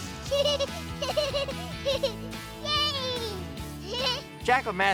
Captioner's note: giggling